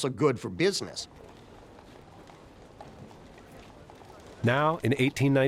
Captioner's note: footsteps clattering